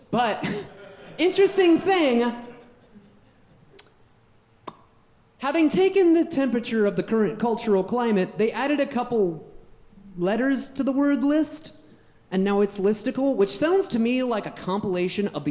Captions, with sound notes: but interesting thing, (audience laughing) (pop) having taken the temperature of the current cultural climate, they added a couple letters to the word list. And now it's listicle, which sounds to me like like a compilation